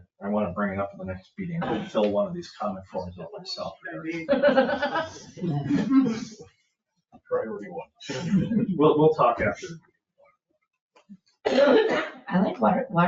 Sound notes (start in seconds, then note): 4.7 people laugh; 8.0 people chuckle